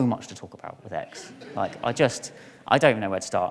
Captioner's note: audience laughs